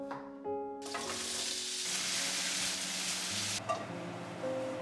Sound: pan sizzling

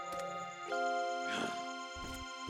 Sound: sighing

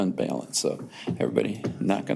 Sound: knuckles knocks

